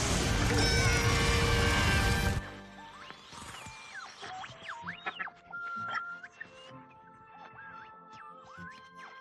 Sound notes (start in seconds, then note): 0.4 screaming